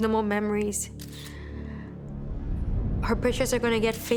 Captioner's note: camera shutter clicks